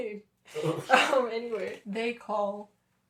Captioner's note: laughter